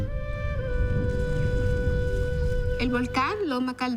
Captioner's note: distant rumbling